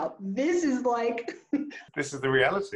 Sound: laughs loudly

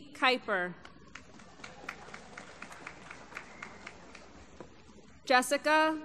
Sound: applause

